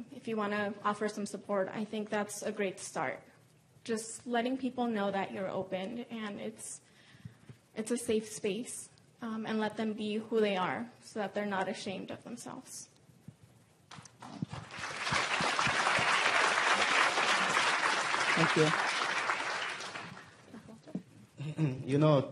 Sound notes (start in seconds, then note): 14.2 applause; 21.4 cough